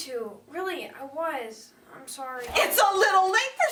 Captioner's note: yelling